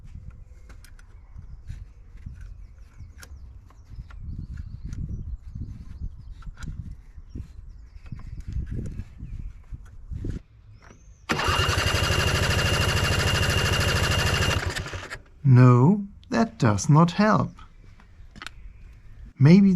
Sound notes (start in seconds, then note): 11.2 engine Cranking Sound